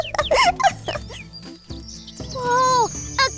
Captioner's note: laughs; magical sounds